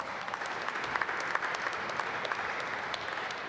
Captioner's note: applause